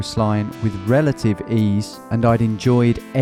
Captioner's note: none